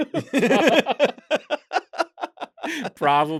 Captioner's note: laughter